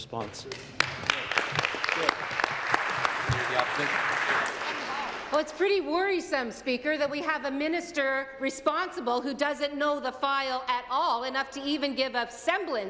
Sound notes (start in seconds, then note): 4.8 applause